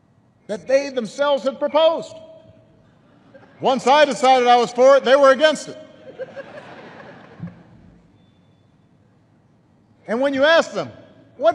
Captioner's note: laughter